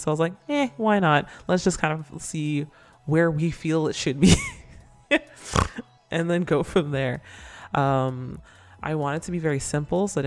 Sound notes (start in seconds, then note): 5.1 laughs; 5.3 snort